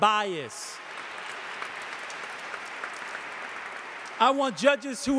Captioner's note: audience applauding